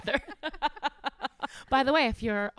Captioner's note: laughing